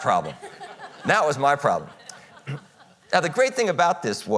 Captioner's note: audience chuckles